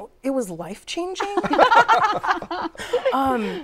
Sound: laughter

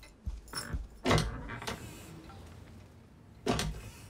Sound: change jingles; door opens; door closes

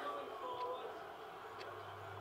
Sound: ticking clock

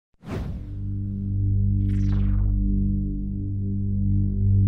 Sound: humming tone

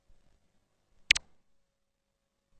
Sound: 128-bit click

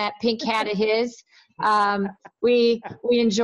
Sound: laughs

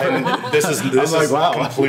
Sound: laughing

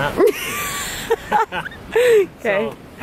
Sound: laughter

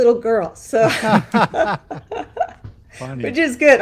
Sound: both laughing

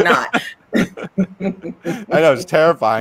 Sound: both laughing

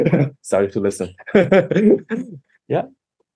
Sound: laughs

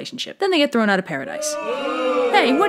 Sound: booing

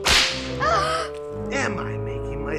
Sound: whip cracking; gasping

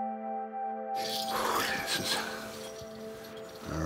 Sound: bells jingling; exhales

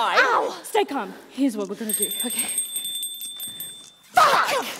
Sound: doorbell chimes

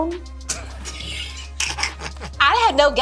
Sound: laughs

